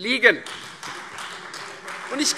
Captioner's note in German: Beifall Freie Demokraten